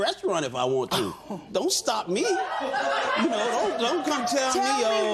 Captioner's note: laughter